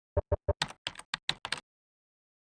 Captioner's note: typing sounds